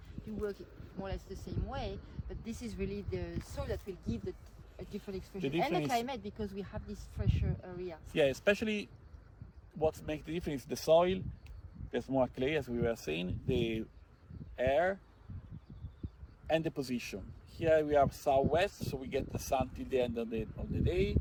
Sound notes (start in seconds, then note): 15.7 wind